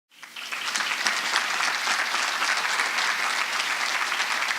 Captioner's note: audience applause